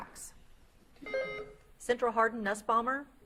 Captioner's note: beep buzzing